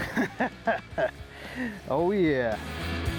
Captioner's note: laughing